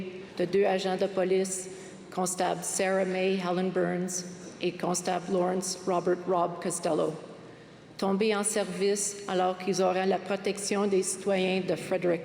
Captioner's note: speaking french